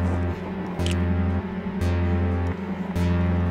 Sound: cap pops

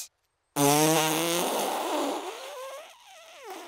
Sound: blows raspberry

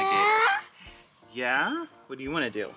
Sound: baby babble

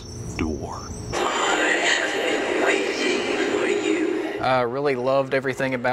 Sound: creepy voice

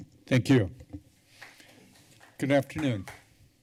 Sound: calpping sound

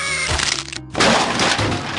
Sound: Crunch

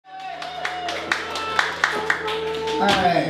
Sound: applause

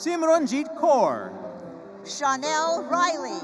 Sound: none

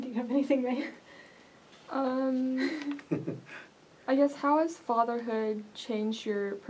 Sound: laugh

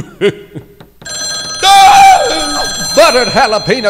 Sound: phone rings; screams

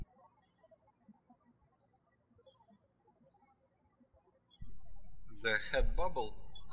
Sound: birds chirping

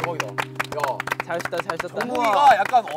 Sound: clapping and cheering

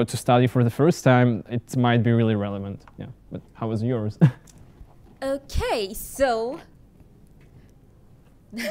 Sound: laughter

